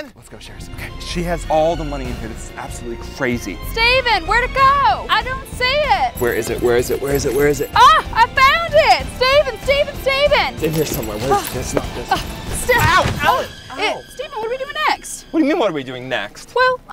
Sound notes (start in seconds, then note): 6.1 keys jingling; 12.7 crashes into chair; 13.6 scary music